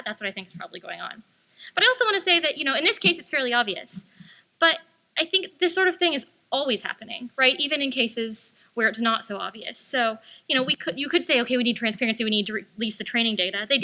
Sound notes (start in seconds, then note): none